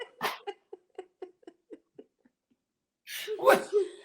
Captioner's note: laughter